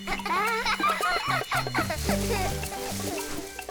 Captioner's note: both laughing